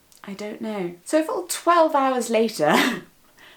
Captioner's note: laughs